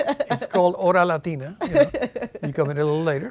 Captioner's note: laughing